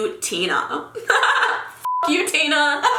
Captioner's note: laughing